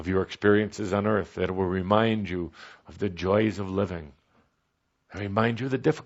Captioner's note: none